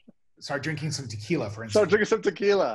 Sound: chuckles

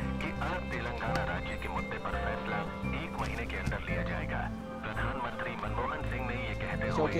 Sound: news playing on Radio

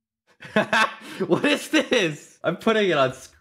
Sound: laughing

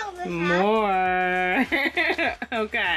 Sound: laughing

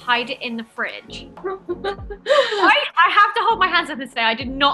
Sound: laughter

